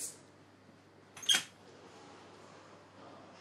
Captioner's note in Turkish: Kapı açıldı